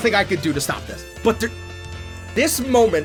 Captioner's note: stammers